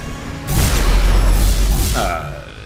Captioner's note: whooshing